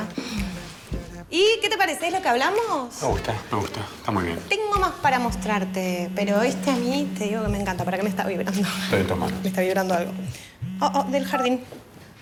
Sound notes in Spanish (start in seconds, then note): 4.4 Celular vibrando